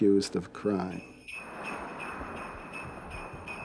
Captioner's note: bells jingling